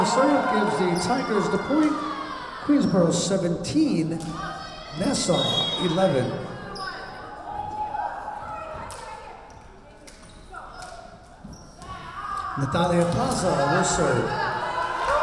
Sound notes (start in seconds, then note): 5.2 whistle blowing